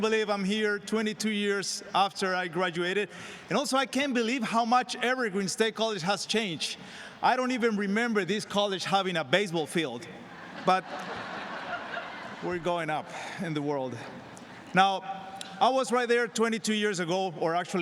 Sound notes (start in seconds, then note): 10.2 laughter